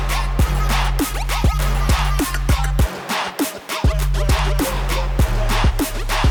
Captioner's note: applause